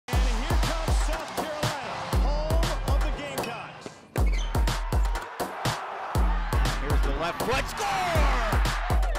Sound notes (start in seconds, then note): 4.2 crowd cheering; 8.9 rhythmic music